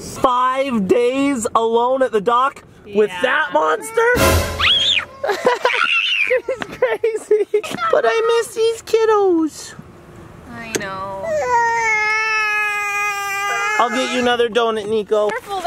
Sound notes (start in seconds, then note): 4.6 screams; 5.0 laughs